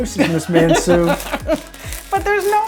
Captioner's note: laughing